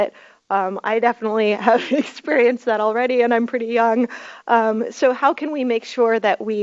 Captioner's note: chuckles